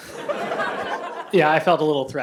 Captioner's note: laughter